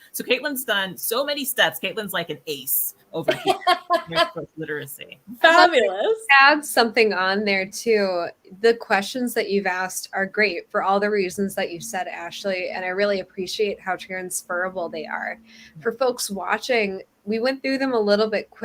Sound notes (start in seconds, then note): 3.2 laughs